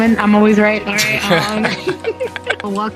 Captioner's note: both laughing